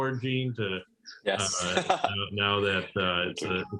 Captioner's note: laughter